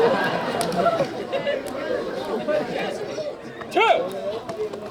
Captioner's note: crowd chattering